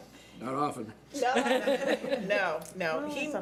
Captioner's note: laughing